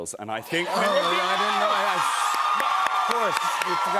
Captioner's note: cheers and applause